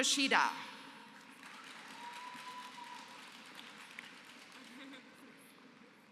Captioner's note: applause